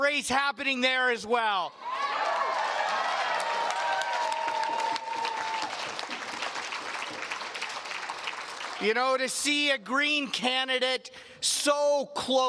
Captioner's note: cheers and Applause